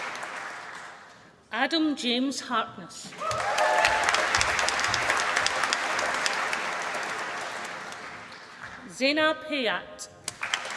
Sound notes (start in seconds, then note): 3.1 applause; 10.2 applause